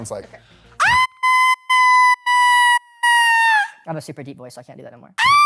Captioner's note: screams